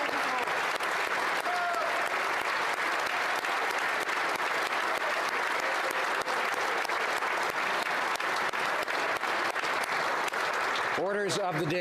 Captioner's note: applause